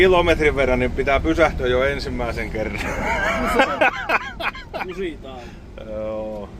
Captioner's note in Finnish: naurua